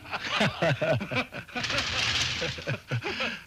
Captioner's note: men laughing